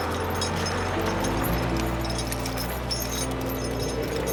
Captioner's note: gentle music; chains clink